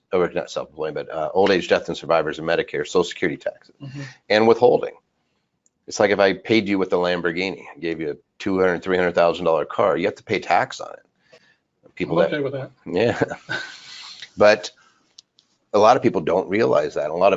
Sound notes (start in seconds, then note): 13.0 chuckles